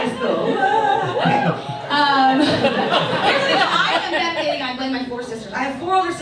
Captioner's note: audience laughs